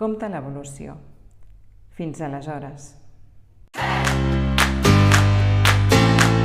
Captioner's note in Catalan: Aplaudiment